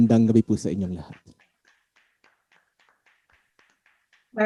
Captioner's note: clapping off-camera